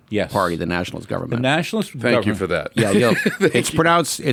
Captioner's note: laughs